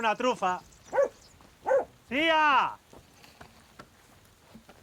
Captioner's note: dog barks